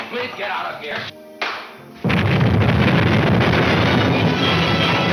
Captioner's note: explosions exploding